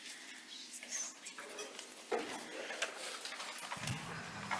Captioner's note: indistinct conversation